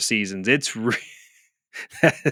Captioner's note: laughs